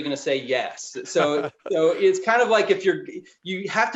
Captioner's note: laughing